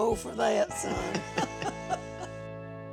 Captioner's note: both laughing